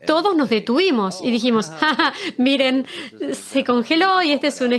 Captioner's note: laughs